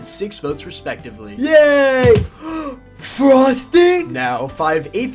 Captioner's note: gasps